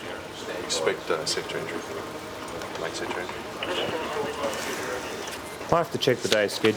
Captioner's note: background chatter